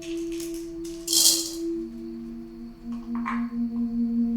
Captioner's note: pills rattling